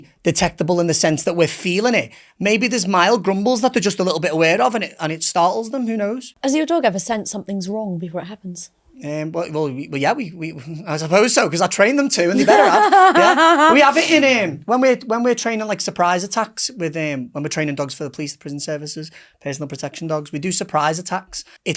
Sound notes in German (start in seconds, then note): 12.3 lacht